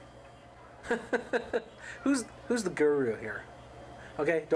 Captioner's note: laughs